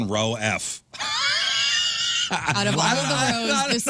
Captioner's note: laughing